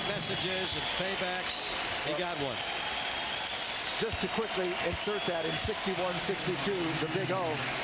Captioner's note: applause